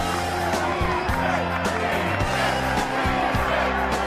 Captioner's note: crowd chanting